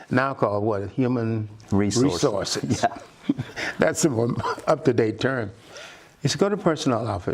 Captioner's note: laughter